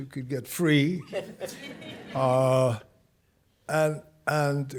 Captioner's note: audience chuckling